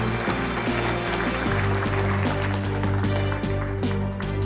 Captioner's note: audience applause; dramatic music